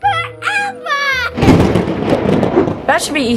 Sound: thunder rolls

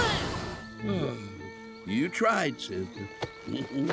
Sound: sighing

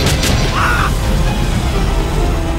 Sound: death scream

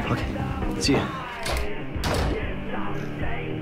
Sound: door Closes

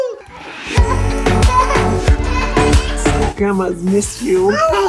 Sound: upbeat happy music; child laughing; child speaking gibberish

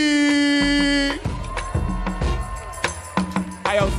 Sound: audience cheering

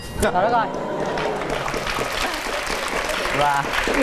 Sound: clapping hands

